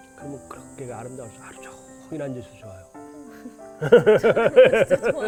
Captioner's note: haha